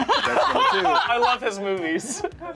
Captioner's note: group laughs